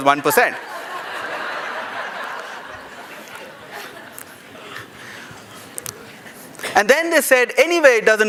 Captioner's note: laughter